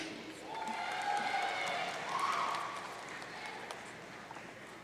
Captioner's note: audience cheering